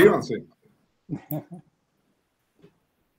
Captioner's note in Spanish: Risas